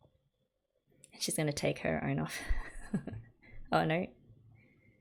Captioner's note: laughs